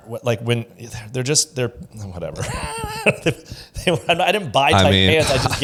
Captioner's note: laughs